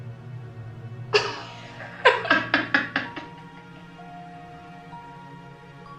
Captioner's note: laughing